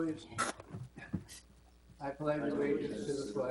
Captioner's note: all reciting pledge